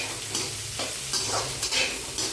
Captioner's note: frying